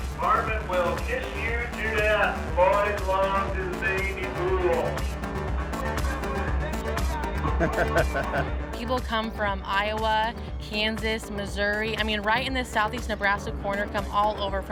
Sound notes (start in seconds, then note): 5.0 exciting techno music; 7.5 cameraman laughing